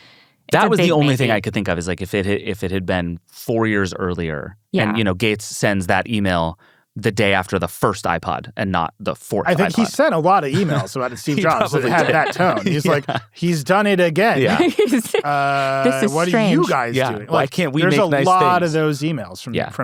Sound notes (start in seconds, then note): 14.1 laughs